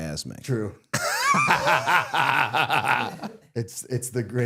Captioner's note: both laughing